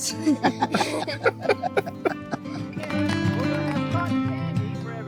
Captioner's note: all laughing